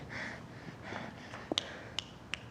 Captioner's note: fingers snapping